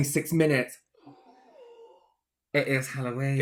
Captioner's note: spooky Silence